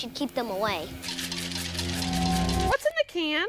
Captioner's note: can rattling